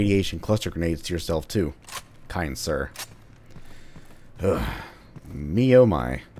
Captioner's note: exhausted sigh